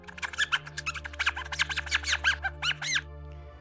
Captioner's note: squeaking